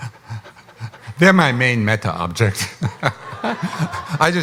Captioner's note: laughs